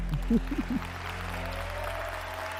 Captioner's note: applause